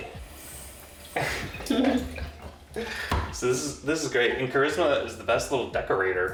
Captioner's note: laughing